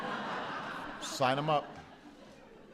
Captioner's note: laughter